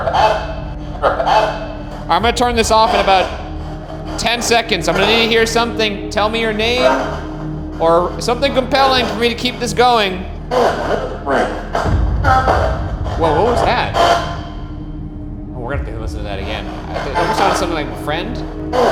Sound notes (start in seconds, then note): 10.6 muffled static and noises from Honeytone